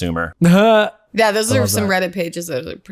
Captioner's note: laughter